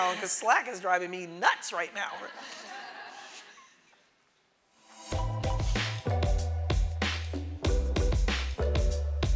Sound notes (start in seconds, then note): 2.3 audience laughing; 4.8 upbeat music